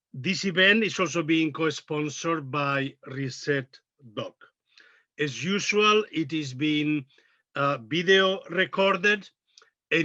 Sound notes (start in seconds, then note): none